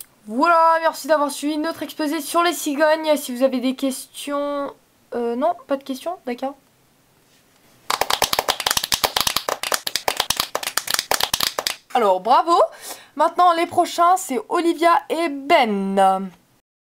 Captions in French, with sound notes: voilà merci d'avoir suivi notre exposé sur les cigognes si vous avez des questions... Euh non? Pas de questions...? D'accord! [Applaudissements] Alors, Bravo! Maintenant les prochains c'est Olivia et Ben!